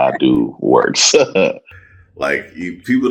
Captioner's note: chuckles